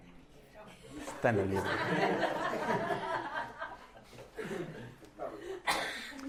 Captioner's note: laughs